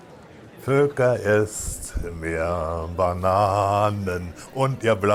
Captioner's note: German spoken audio